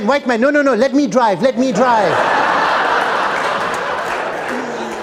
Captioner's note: laughter